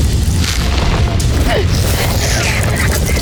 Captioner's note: arrow swooshes; guttural roar; grunts